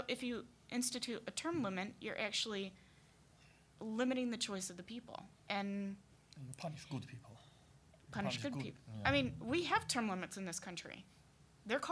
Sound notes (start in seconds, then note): none